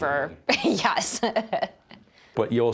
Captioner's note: laughs